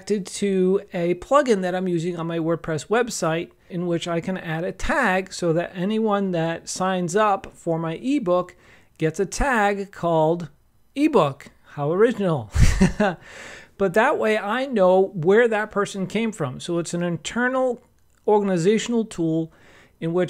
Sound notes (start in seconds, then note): 12.6 laughs